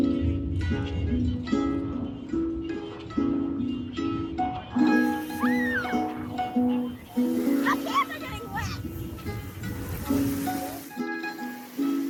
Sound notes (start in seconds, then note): 4.6 children screaming in background